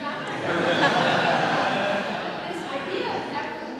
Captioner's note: audience laughs